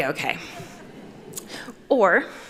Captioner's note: chuckles